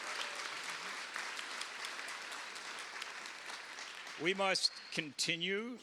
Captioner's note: cheers and applause